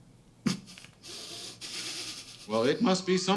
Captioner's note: snickering continues